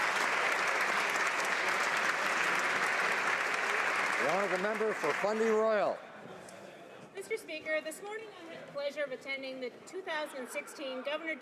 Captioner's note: applause